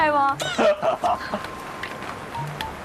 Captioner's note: hahaha